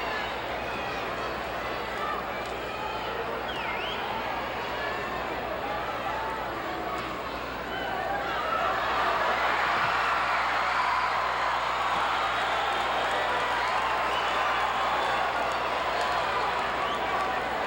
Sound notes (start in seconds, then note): 3.5 audience cheering; 11.5 audience cheering and clapping